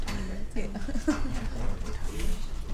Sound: laughs; chatter

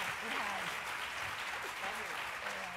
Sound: applause

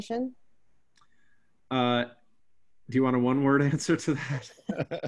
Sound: chuckles

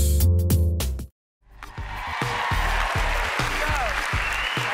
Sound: cheers and applause

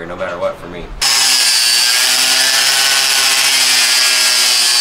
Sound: saw motor whirring

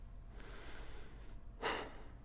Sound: sighs

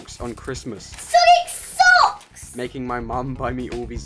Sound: rustling of paper

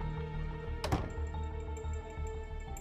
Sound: door closes

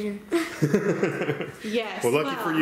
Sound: laughing

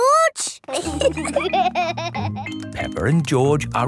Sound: laughter

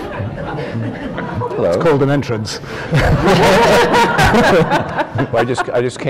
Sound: laughter

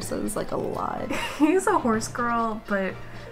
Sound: laughs

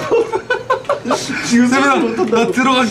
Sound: laugh

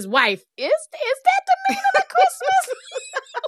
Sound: laughter

